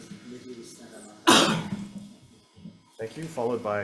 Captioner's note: person coughs